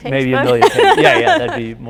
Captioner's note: laughing